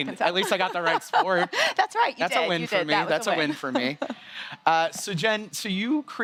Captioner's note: laughter